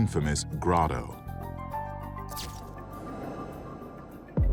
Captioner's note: camera snapping